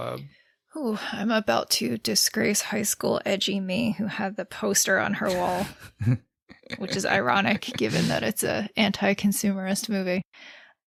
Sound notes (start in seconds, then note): 6.7 laughs